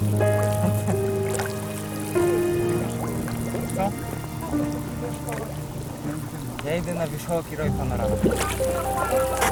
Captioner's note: boilings